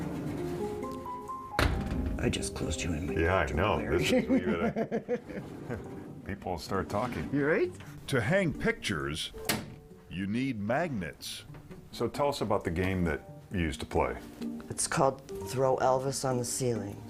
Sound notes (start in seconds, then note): 6.2 laughing